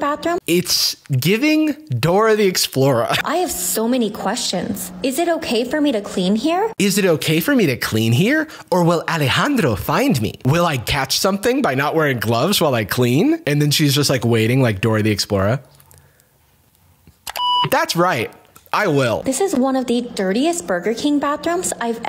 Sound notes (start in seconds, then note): 17.2 click, beep